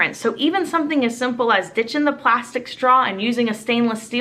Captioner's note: none